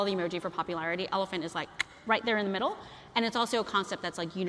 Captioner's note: clicks